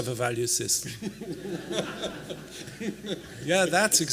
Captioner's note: laughter